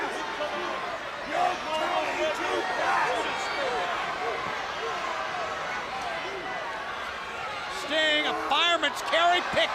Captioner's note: crowd chatter